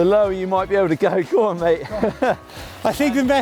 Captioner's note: laughs